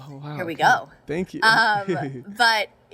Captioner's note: giggles